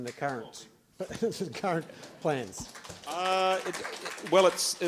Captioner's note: applause